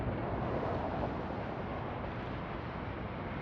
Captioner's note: wind blowing